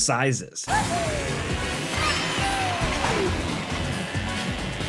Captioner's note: in-game effects and music